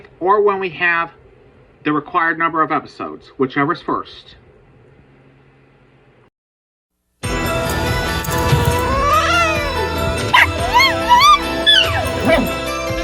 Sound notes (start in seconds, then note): 8.3 Caprice hisses and then yowls; 10.1 Ella barks then howls